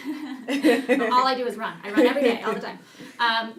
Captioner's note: laughing